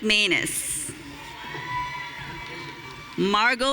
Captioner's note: audience cheering